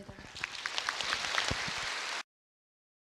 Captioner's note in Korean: 청중 박수